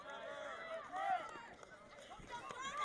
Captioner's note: crowd cheering